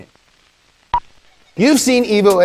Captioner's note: beep